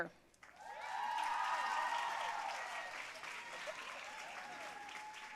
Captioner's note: audience cheering and applauding